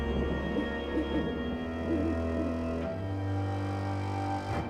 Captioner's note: owl hooting